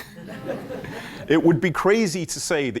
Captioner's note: laughter